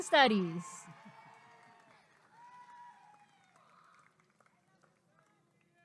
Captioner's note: applause and cheering